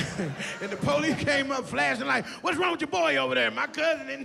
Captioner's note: laughs